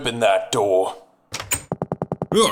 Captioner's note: door opens